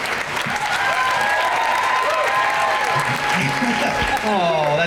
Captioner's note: crowd cheering